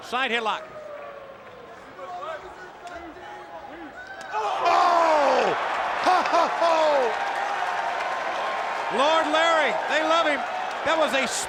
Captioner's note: applause